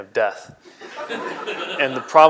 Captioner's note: laughing